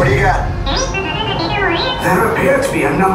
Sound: BB-8 Droid Beeps

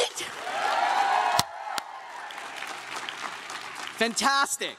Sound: crowd cheers and claps

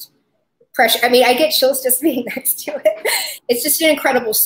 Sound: laughs

